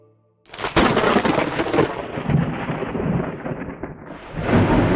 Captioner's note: thunder cracking and rumbling